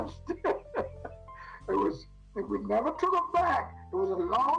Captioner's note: laughs